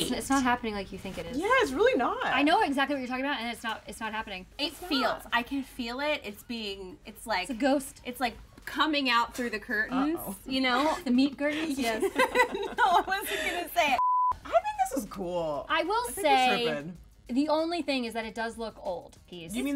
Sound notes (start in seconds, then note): 11.7 laughing